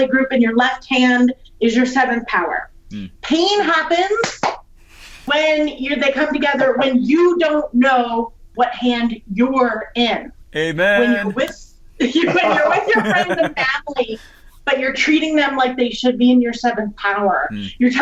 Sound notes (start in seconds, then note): 4.3 claps; 12.2 all laugh